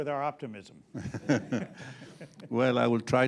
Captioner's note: laughter